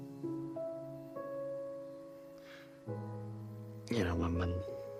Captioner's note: gentle music; insects chirping